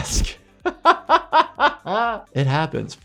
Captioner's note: laughs